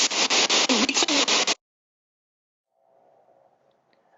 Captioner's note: voice blurts